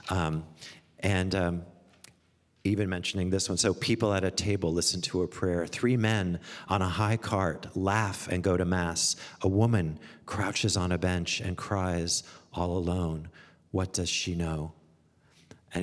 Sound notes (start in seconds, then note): none